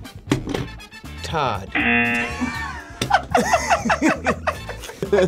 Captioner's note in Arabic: يرن الجرس; يرن الجرس; يضحك